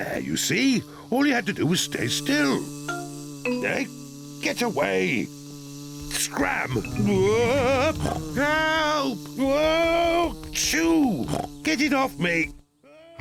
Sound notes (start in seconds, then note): 7.6 yells; 11.2 snorts